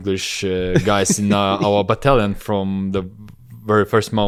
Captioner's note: laughs